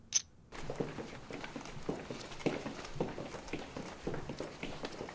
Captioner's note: footsteps thumping